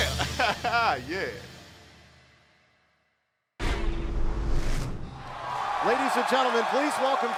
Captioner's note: crowd cheering